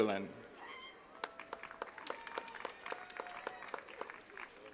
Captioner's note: attendees clapping